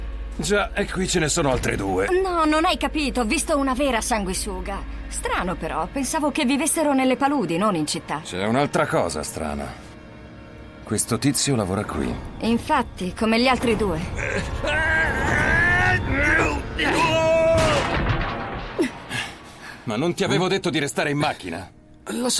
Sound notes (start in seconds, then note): 14.2 scientist grunting; 18.8 gasps